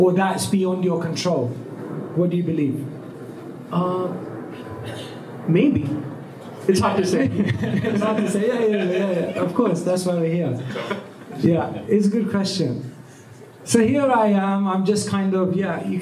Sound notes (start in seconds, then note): 7.0 laughter